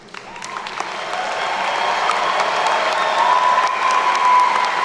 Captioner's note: attendees cheer and clap